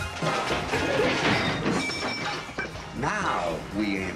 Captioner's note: scuffling and crashing